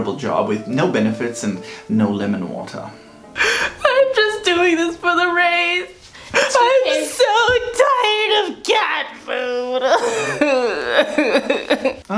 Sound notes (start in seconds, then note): 3.3 through tears; 9.2 sobbing